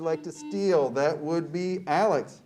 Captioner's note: buzzer beeps